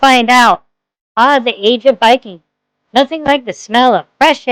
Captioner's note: sarcastically